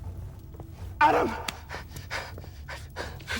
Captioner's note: gasps